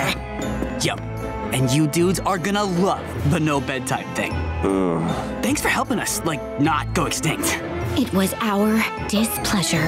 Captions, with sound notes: Yo, and you dudes are gonna love the no bedtime thing. [groaning] Thanks for helping us, like, not go extinct. It was our displeasure.